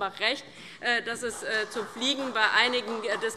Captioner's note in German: Beifall